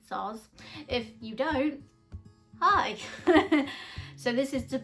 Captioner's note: laughs